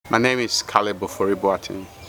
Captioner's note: background sound of bird song, people talking, insect hissing